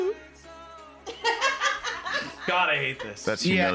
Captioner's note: laughs